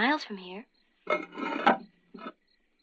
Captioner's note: stone scraping